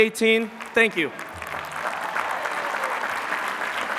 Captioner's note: applause